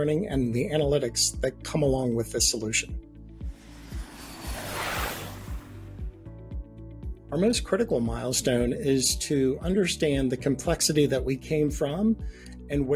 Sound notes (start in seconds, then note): 3.3 airplane whooshing; 3.5 gentle music